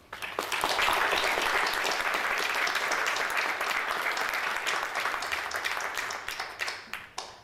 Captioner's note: audience applauding